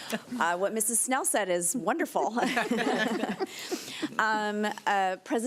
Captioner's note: chuckling